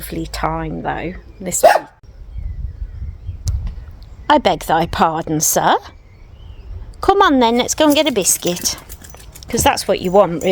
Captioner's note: bark!